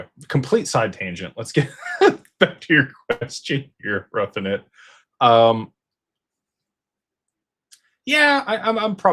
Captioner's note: laughter